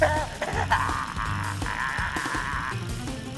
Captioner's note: evil laughing